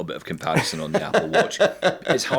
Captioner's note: laughing